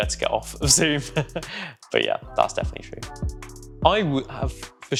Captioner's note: laughs